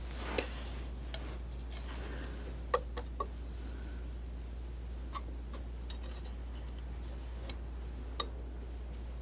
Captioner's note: scratching